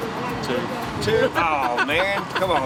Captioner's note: man laughing